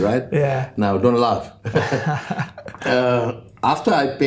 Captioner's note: laughs